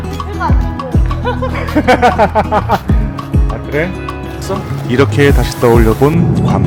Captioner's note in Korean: 웃음